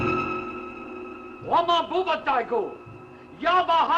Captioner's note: eerie music; alien speech